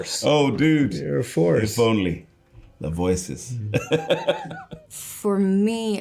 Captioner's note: laughing